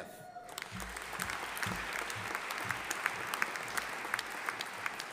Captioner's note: audience applauding